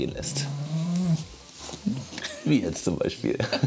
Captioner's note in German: Seufzen